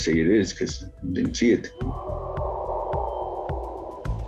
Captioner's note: eerie sound